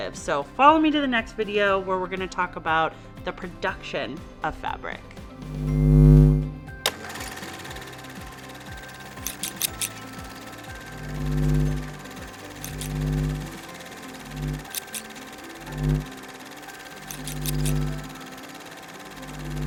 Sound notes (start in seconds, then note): 6.9 film reel flickering; 9.2 scissors snipping; 10.9 gentle instrumental music